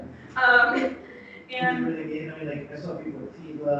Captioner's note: speaks faintly